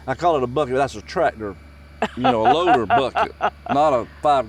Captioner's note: laughs